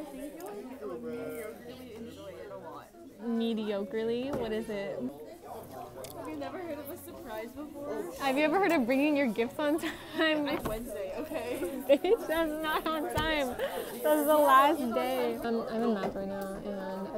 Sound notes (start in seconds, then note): 11.1 laughs